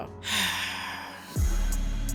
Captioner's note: soft music; heavy sigh